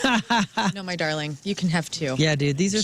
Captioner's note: laughing